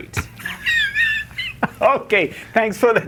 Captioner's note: guy laughing